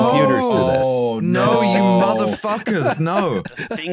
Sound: laughs

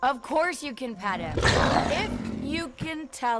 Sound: giant cat roars

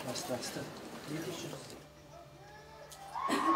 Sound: loud cheer

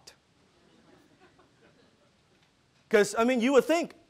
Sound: audience laughing

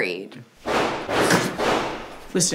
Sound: gunshots

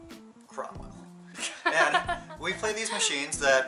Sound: laughs

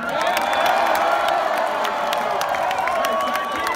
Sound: applause

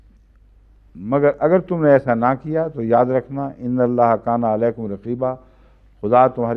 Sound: Arabic

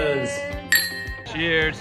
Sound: glasses clink

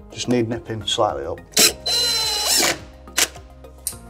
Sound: drill

